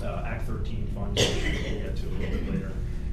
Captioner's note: coughing